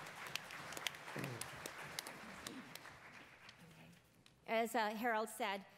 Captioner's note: attendees applauding